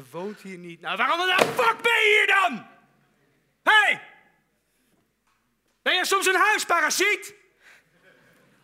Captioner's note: shouting again